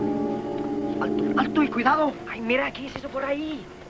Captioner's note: men speaking Spanish